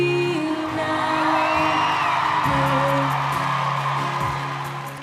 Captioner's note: crowd Cheers